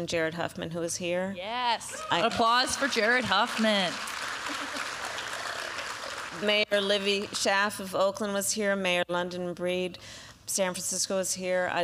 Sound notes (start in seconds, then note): 4.3 applause